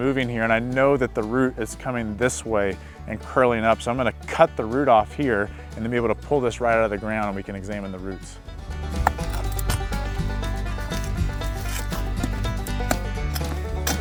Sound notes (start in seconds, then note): 8.4 shovel cutting root sound